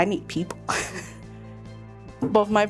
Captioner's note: laughing